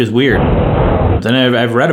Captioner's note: harsh wind blows